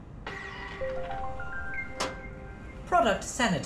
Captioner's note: object dispensing; confirmation tune